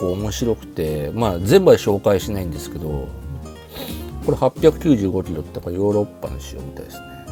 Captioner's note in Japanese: 鼻息